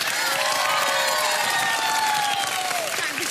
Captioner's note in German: Jubel